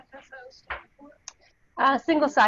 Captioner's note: audio drops